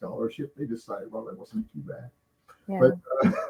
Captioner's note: laughing